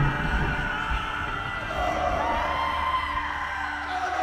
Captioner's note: people yelling